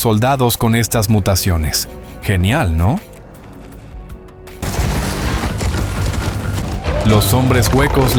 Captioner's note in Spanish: Sonido de alarma, trampas activadas